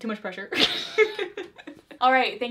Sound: both laugh

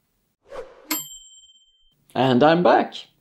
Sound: timer dings

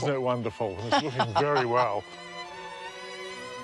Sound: laughs

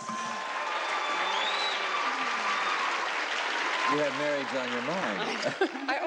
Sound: applauding

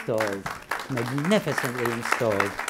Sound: applauding

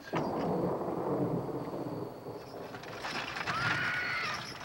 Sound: thunder clapping; horse whinnying

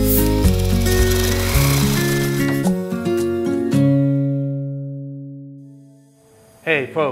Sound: upbeat music; drill whirring

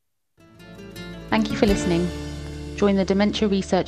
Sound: smooth music; voiceover

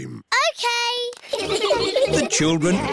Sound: all giggling

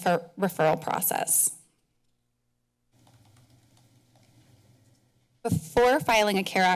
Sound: pause

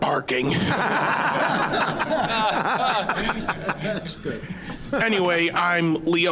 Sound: audience laughing

